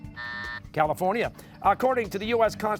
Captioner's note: buzzer